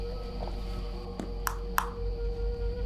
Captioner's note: taps metal